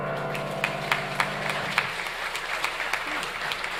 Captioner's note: audience applauds